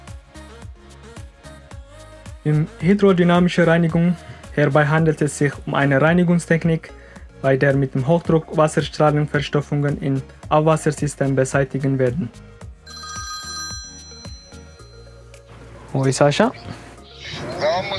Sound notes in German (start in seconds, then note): 12.8 Telefon klingelt